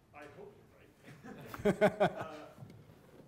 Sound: audience chuckles; laughs

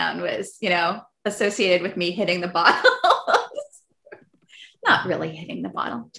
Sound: laughs

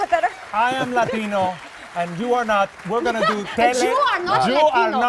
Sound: applause

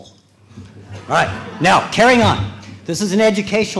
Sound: laughter

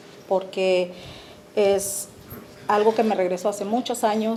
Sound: speaking Spanish

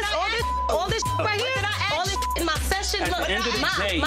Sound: beep

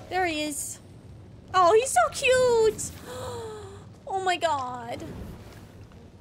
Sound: gasps

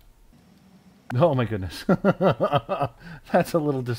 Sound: laughter

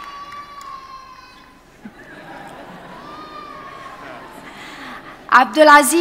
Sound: baby cries out; audience chuckles

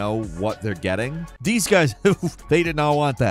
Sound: Falcon chuckles

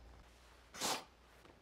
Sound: reflective sniff

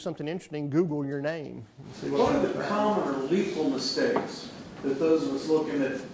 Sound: voiceover

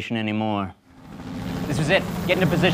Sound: helicopter whirring

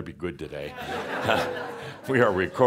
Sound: more laughter

